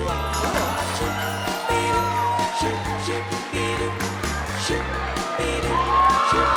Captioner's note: upbeat music; crowd applauding